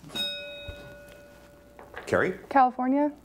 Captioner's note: bell rings